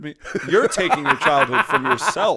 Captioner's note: laughter